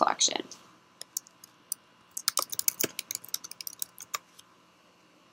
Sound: sound of keys typing

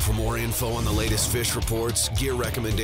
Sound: voiceover

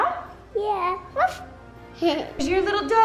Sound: imitates barking noises

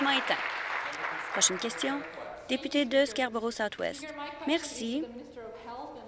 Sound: applause

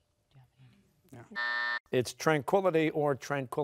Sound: buzzer sounding

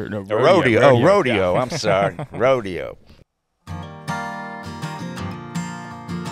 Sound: laughing

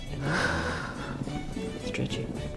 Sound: breathing

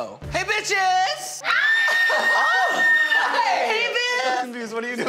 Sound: screaming

